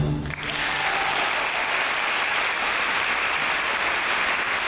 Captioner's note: audience applauds